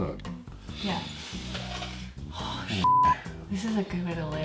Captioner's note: beep